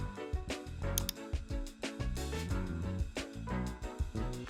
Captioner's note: mouse clicking